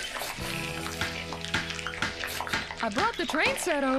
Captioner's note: hammer Pounding